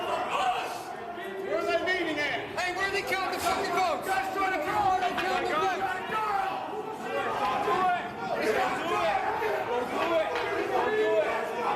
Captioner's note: yelling